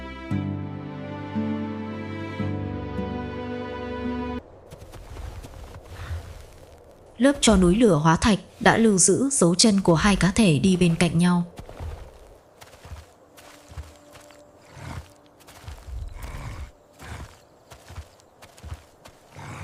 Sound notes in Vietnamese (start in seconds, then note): 15.9 rên rỉ